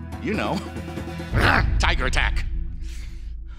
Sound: growls

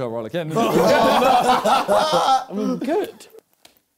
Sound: both laughing

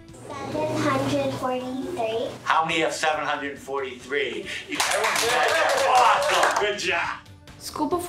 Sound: cheering

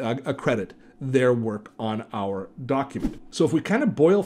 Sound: air whooshing

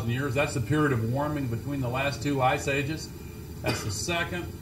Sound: cough

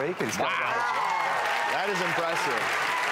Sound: cheers and claps

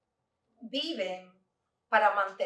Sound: Spanish

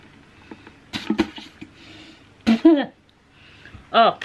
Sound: spitting noises

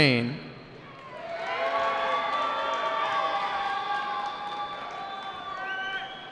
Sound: cheering

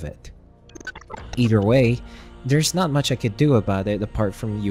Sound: glitch sound effects

